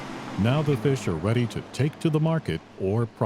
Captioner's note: engine sound